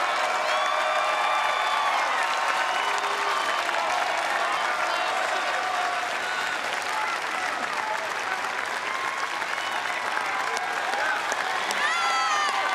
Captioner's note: cheers & applause